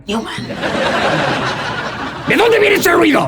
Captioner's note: risas